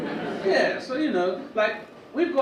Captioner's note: audience murmur in agreement